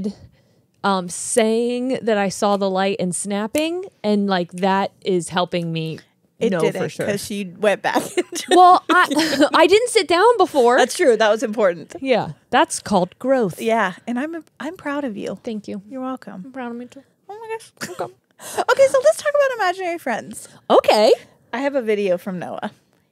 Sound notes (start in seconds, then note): 8.0 chuckles